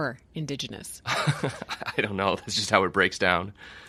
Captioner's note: chuckling